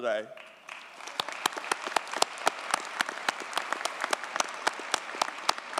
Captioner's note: audience cheers and applauds